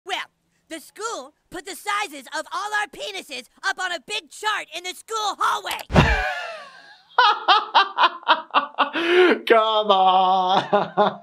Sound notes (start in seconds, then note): 5.7 computer mouse clicks; 5.9 gasps, then laughs; 10.2 laughing